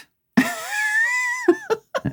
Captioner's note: laughing